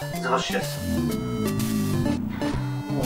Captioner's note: hungry belly